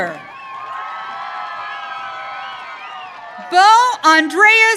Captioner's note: audience cheering